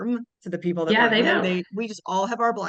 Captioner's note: faintly speaking